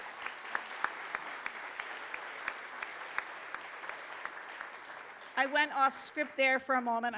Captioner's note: applause